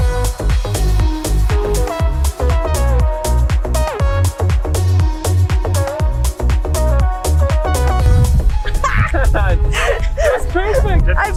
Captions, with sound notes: (laughing) - That was pretty expected.